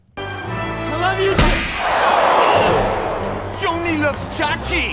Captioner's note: crowd moaning